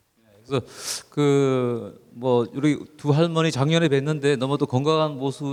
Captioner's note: speaking in foreign language